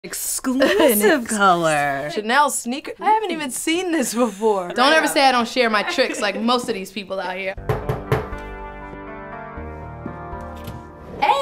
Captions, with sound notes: - Exclusive color. - Exclusive. Chanel Sneaker? I haven't even seen this before. Don't ever say I don't share my tricks like most of these people out here. (knocking) (soft music)